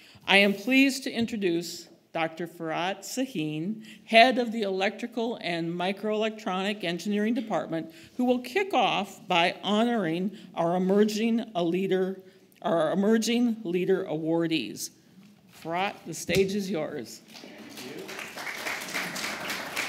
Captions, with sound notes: I am pleased to introduce Dr. Farrar Sahin, head of the electrical and microelectronics engineering department, who will kick off by honoring our emerging leader awardees. Farrar, the stage is yours. [APPLAUSE]